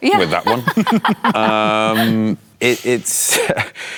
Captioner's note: laughter